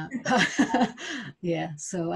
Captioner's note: laughs